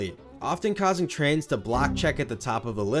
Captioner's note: Windows error sound